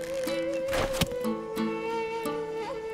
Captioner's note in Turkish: Ok fırlatma sesi